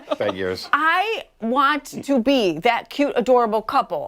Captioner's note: laughter